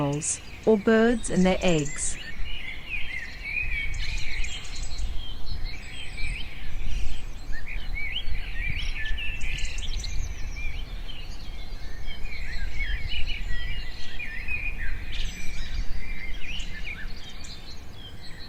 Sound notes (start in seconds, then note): 3.1 forest birds